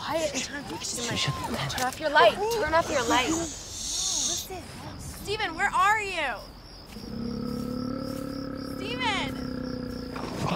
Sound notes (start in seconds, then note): 7.0 bear growling